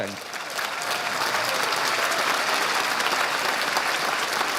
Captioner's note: audience applauding